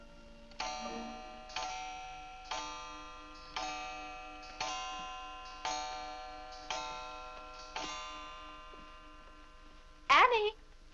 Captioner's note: clock chimes